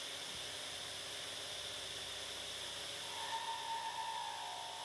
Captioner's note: machine whirring